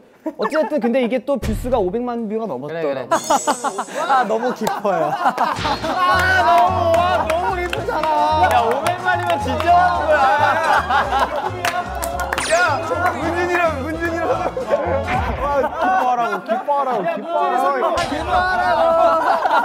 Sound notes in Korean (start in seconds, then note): 11.5 하하하하